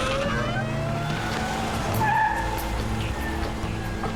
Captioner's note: tires squeal